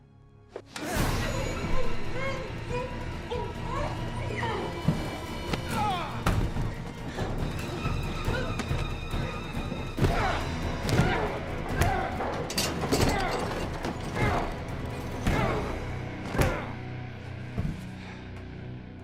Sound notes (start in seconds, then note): 2.9 muffled screaming; 12.0 pounding